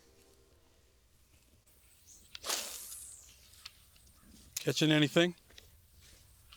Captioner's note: line whirring